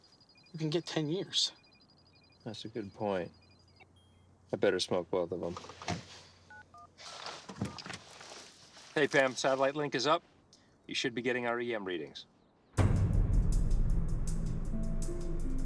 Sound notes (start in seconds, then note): 7.3 door open close; 12.8 drum